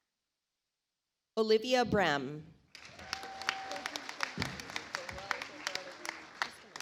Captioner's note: audience applauds